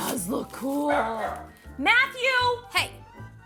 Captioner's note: dog barking